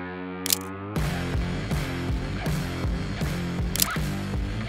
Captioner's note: camera clicks